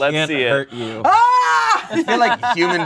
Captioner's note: yells